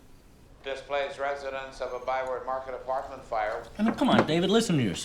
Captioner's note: on TV